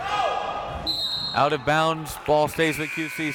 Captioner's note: whistle tweeting